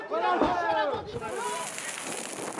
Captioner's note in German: Stimmengewirr, Schreie